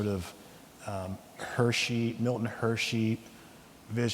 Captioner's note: none